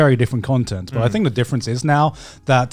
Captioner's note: affirmative murmuring